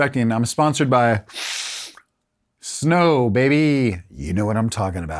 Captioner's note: sniffs